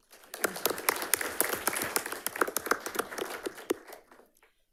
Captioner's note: audience applauds